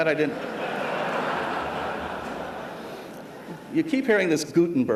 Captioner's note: laughter